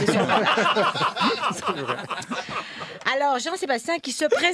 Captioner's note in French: rires